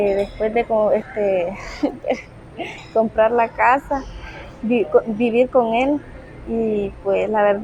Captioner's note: nervous laugh